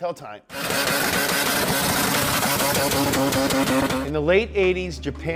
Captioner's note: engine sputtering sharply